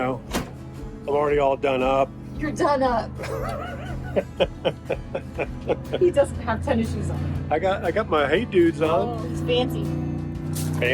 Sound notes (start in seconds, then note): 3.2 laughs